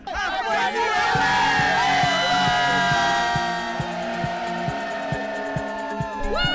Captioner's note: laughs; crowd; crowd cheering